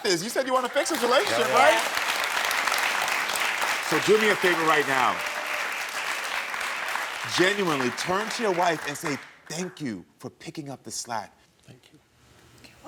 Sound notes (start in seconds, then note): 2.2 audience applauding